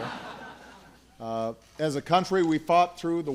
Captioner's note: laughter